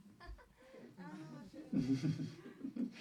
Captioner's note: laugh